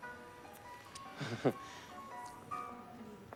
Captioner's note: laughs nervously